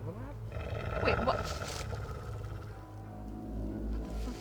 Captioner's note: werewolf growling